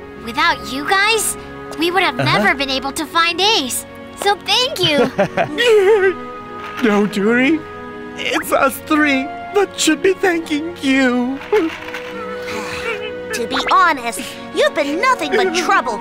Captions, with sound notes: Without you guys, we would have never been able to find Ace. So thank you. [Blo sobs] No, Duri It’s us three that should be thanking you. To be honest, you’ve been nothing but trouble!